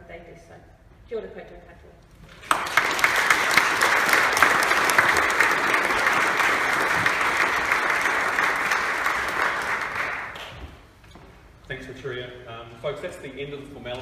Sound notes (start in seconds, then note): 7.1 applause